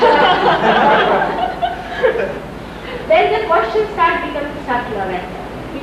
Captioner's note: Laughter, Shri Mataji laughs